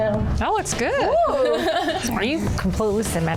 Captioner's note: laughing